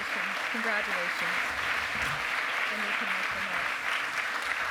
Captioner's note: applause